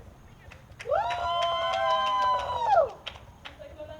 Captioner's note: audience cheers again